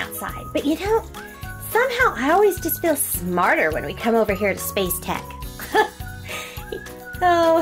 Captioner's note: giggling